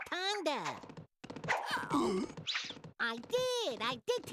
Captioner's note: choking